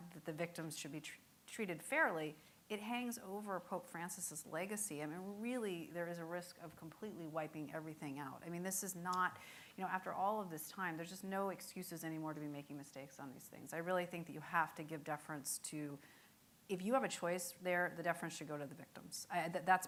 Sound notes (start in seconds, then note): none